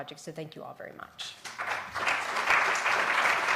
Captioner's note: applause